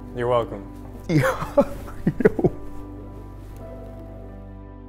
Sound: laughing

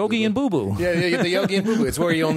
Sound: laughter

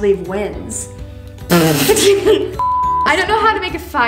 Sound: laughing

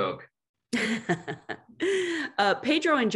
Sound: laughs

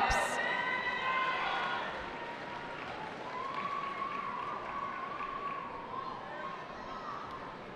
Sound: cheering

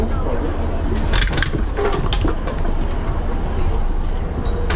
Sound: wheelchair moves

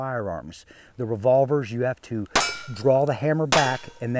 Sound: gunshots/plinking sounds

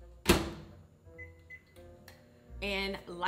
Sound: quizzical music; microwave beeping

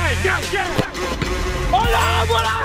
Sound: Sidemen yelling; upbeat music; ball thuds; Sidemen cheer

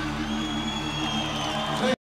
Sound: audience cheering

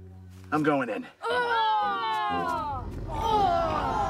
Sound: all Groaning

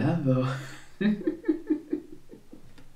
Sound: evilest laugh ever

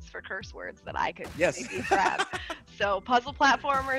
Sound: laugh

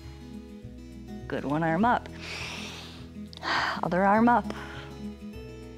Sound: inhales

